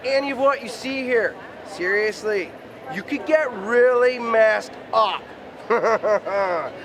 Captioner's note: laughs